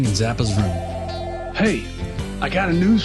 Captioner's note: telephone ringing